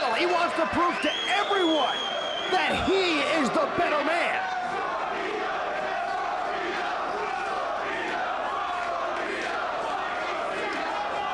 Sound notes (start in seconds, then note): 4.9 crowd chanting